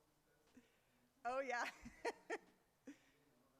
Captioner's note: laughs